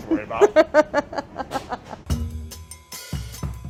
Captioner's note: laughs; jazzy music